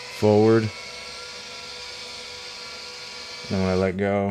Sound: machine buzzing

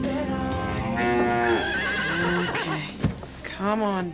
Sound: cow mooing; horse whinnying

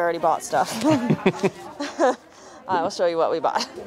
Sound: laughing

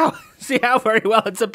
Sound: laughs

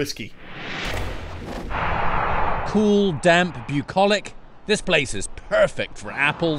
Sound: voice-over

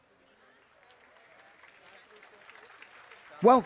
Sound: applause

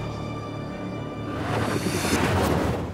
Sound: transition sound

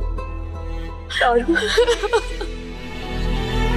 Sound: sobbing

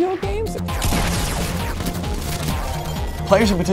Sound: weapons firing

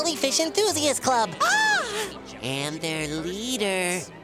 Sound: gasping

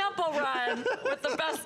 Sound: laughter

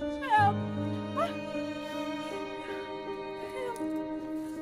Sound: woman whimpering

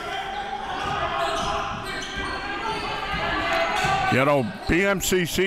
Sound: crowd cheering

